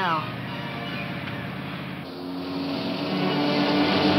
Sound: car whooshing; suspenseful music

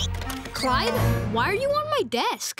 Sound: none

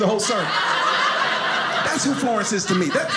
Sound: audience laughing

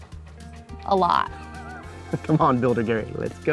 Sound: laughs

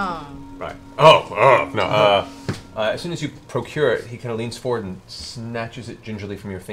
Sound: laughs

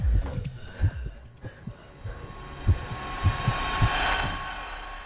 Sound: heartbeat

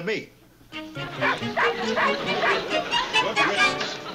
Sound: dog barks

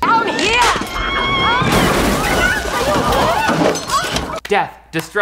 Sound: car crashes

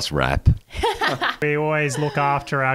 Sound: laughing

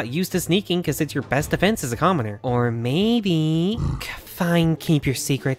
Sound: grunts in disapproval

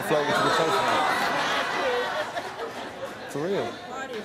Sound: laughing

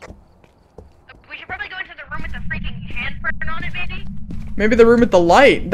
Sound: over Radio; over Radio

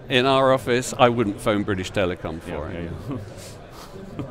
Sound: laughs

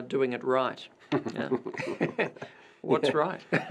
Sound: laughter

